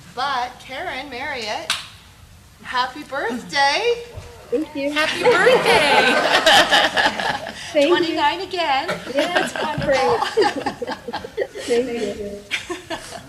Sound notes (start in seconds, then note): 4.9 board laughing; 8.7 laughing